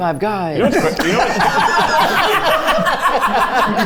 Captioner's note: all laughing